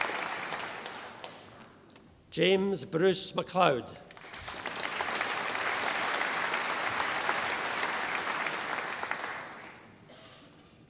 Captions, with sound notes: James Bruce MacLeod. (audience applauding)